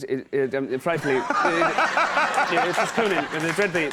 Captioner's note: audience laughs